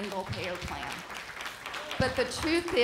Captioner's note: applause